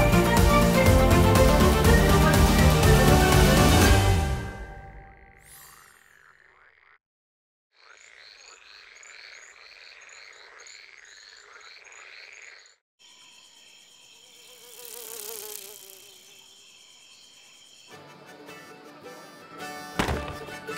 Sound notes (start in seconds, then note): 4.9 frogs croaking; 13.1 buzzing